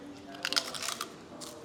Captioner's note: crunch